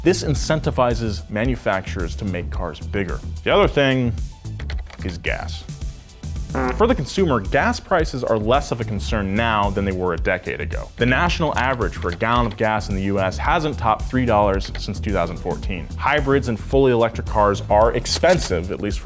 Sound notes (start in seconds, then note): 6.4 fart bleating